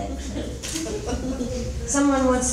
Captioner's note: chuckling